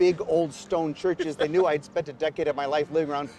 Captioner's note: John laughs